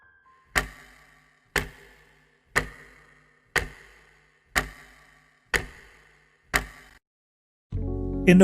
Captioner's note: ticking